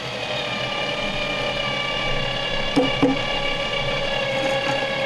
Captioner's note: engine whining